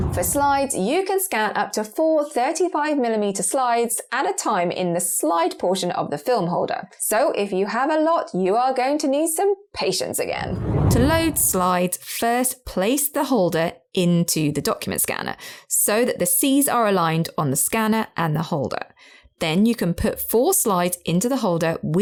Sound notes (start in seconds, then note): 10.3 video effect whooshes